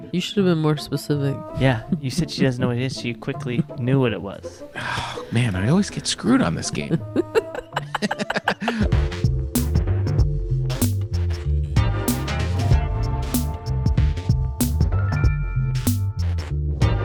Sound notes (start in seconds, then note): 6.8 laughing; 9.2 funky music